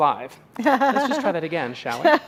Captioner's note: laughing